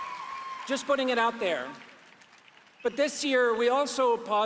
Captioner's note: cheers and Applause